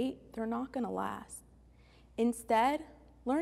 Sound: none

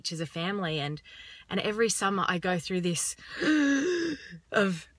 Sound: gasps

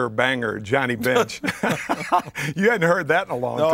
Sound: laughter

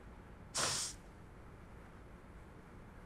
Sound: sniffs

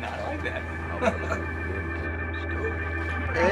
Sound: Donny laughs

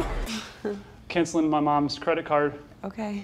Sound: sighs

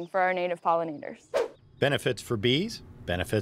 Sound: air whooshes

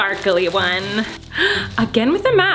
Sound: gasps

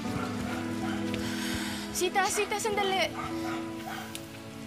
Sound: inhales deeply

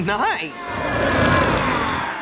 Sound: chuckling; growling

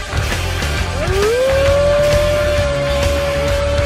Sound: howling

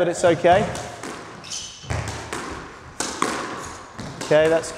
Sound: ball bouncing

